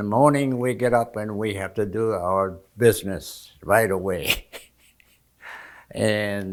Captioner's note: laughing